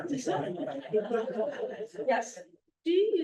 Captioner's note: laughter